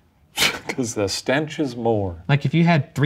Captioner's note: chuckling